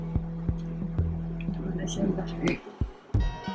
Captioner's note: softly coaching